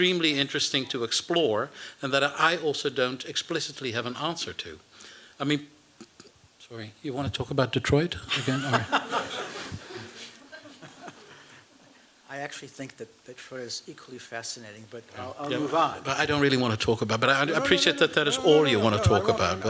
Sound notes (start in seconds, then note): 8.2 laughter